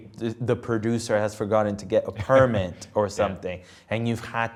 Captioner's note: laughs